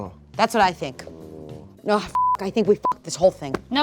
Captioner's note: beep